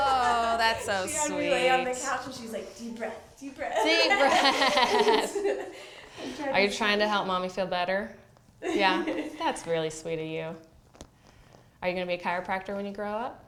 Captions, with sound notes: Oh, that's so sweet. She was on the couch and she was like, "Deep breath. Deep breath." Deep breath. [Laughter] Are you trying to help mommy feel better? Yeah? That's really sweet of you. Are you going to be a chiropractor when you grow up?